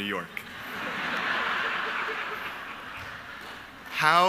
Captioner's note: audience laughing